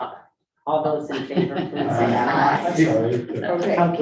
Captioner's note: group laughing